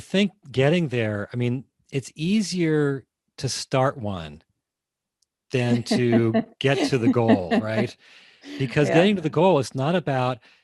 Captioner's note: laughing